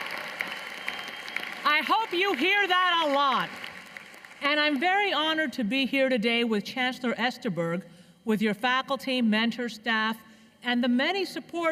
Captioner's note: cheers and applause